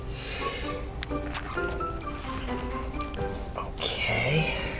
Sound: grunts

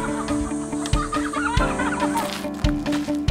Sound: laugh

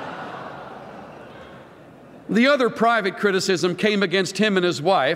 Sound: laughter

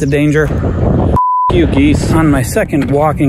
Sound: beep

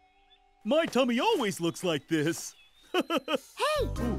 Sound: chuckles

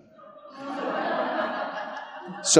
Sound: laughing

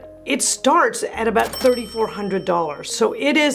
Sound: bell rings

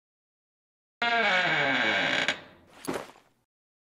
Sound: door creaking

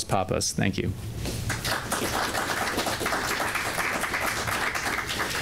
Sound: applause

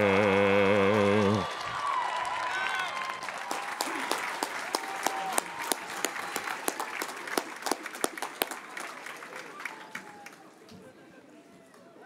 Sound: cheers and applause

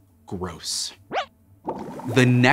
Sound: squeaks squeaks

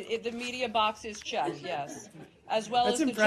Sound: laughing

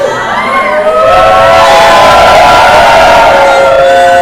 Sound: group cheers

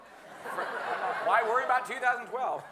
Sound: audience laughing

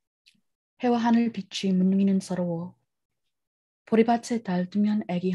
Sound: speaks in foreign language

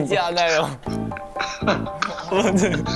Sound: laughter surrounding the studio

